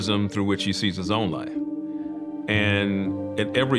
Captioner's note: none